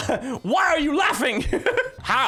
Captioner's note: laughs